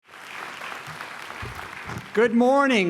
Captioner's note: applause